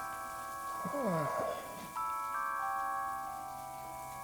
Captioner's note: man groans